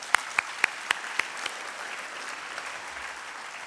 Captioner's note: applause